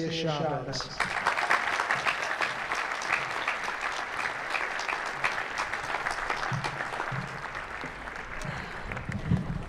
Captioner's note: applause